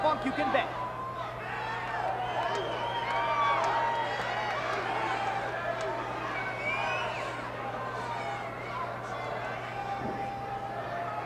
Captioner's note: applause